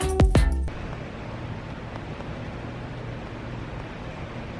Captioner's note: soft clapping